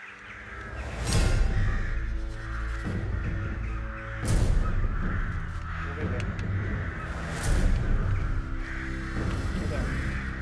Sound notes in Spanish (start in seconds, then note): 3.9 SOUND Asesinato de cuervos